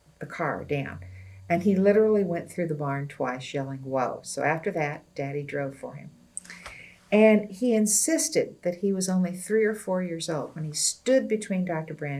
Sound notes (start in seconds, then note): none